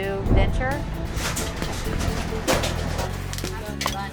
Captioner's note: boxes tumbling